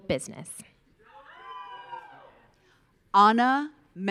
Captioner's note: audience cheering